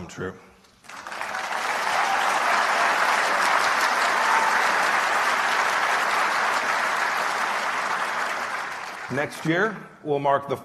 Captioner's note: applause